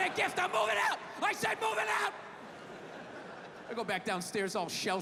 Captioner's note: audience laughing